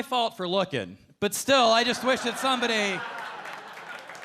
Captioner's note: audience laughing